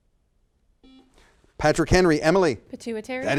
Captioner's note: buzzer sounds